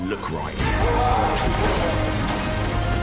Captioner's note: grunts